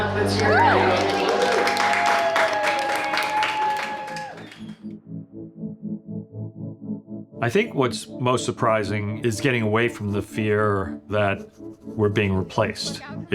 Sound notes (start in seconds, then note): 2.3 applause